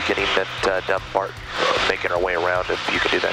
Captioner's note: muffled by microphone